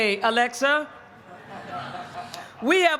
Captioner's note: laughter